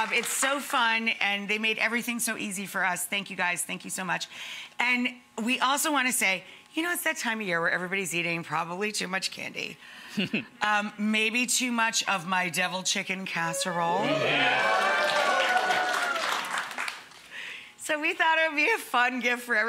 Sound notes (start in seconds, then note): 14.0 audience applauding